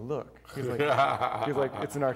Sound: laughing

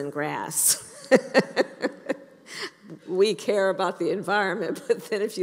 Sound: laughs

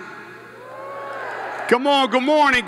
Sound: students cheering

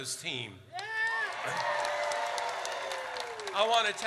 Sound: audience cheers

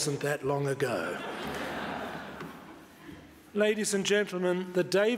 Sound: audience laughs

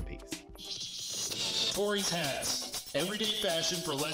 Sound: electronic Voice

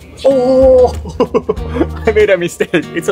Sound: laughs

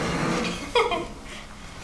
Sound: laughs

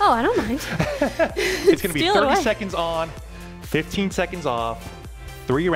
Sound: chuckles

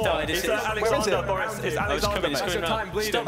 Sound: shouting

